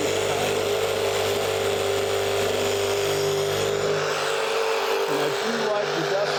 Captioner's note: saw whirring